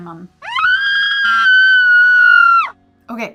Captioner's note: screaming